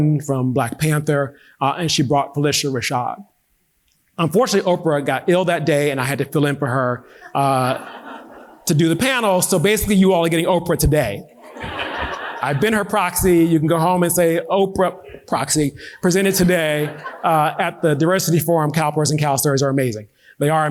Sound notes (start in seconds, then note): 6.3 audience laughing; 11.2 audience laughing